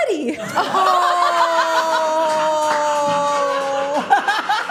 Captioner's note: everyone laughing